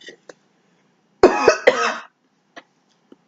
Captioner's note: coughing